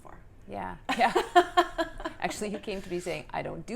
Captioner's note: laughs